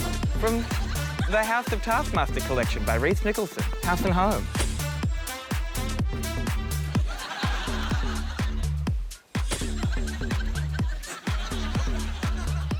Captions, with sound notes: From the House of Taskmaster collection by Rhys Nicholson. House and Home. (LAUGHTER)